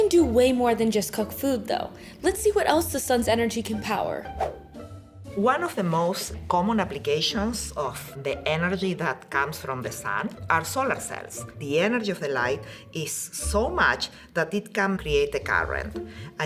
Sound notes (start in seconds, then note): 4.3 screen whooshing